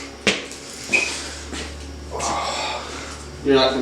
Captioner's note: Travis Takes a Deep Breath; exhales